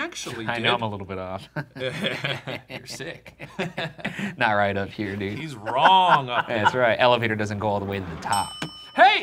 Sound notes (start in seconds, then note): 1.3 laughing